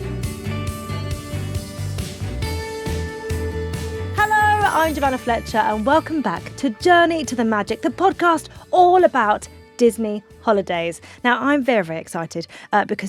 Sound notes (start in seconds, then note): none